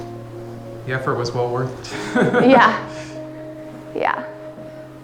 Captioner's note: laughs